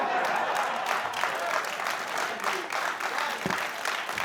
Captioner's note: laughter and applause